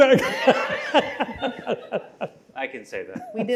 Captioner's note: laughter